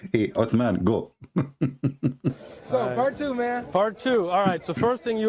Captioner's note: Ketawa